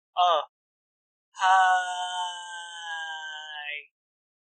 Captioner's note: sigh